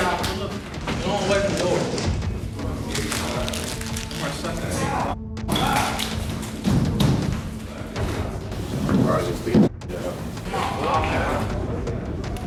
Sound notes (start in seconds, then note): 5.5 grunting